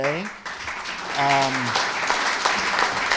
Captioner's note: applause